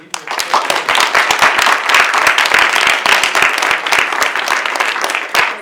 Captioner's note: audience applauding